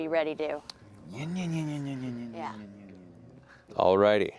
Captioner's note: motorcycle revving